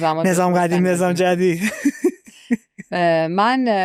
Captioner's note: laughs